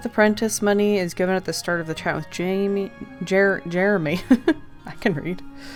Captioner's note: laughs